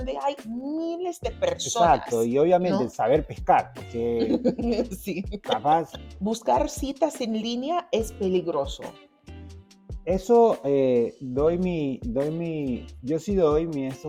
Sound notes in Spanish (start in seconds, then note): 4.2 risas